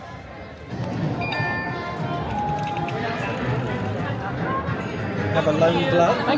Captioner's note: Magic Band Reader chimes